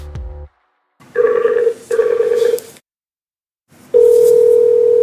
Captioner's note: phone ringing